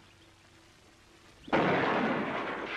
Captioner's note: gunshot